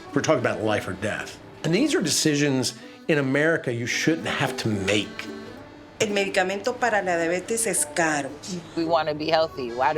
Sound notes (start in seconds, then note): 6.0 woman speaking in Spanish